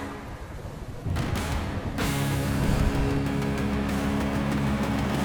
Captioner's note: thunder